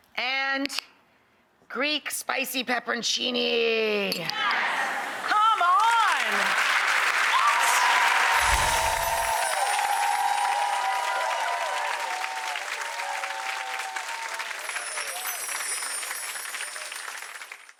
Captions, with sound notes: And Greek spicy pepperoncini. Yes. Come on. What? (applause)